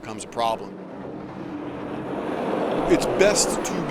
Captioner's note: trucks running